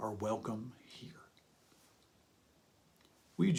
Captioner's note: pause